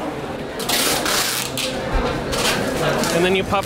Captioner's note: tape cracking